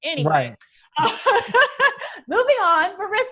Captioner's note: laughs